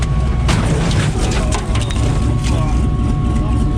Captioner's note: car clanging